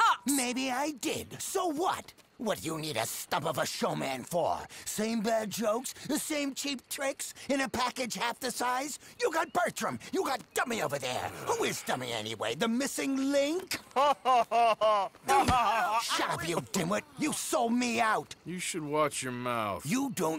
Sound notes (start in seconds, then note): 13.7 Bertram laughs